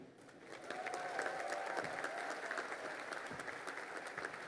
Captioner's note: crowd applauding